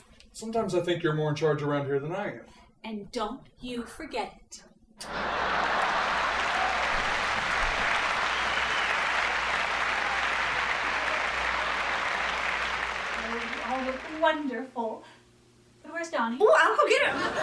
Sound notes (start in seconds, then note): 4.3 audience laughing; 5.0 kiss; 6.8 audience applauding